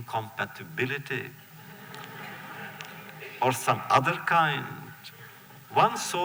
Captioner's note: laughter